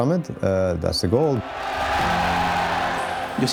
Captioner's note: crowd cheering